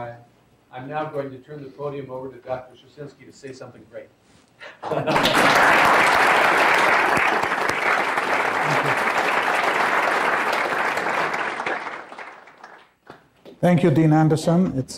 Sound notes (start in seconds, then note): 5.2 applause